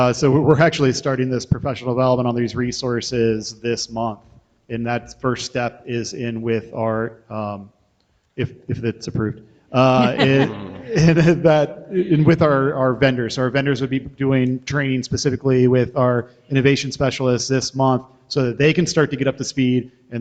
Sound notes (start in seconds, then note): 9.8 members laugh